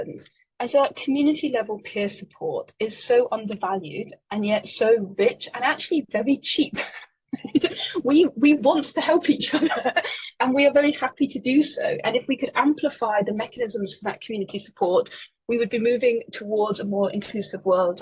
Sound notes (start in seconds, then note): 7.3 laughing